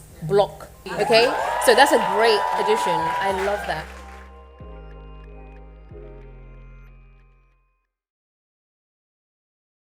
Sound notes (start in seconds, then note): 0.8 cheers